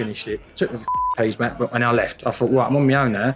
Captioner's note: beep